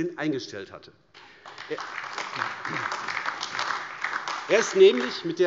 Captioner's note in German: Beifall AfD